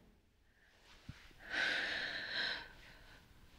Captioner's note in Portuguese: suspiro pesado